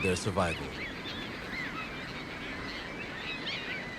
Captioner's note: birds cawing